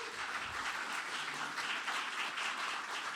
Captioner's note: applause